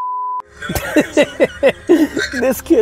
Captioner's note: laughing